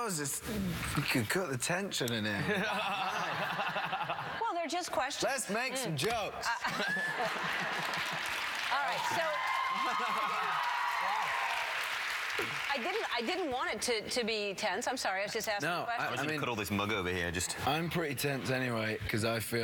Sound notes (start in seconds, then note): 6.5 laughter; 11.1 cheers and applause